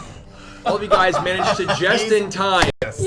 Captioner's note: all laugh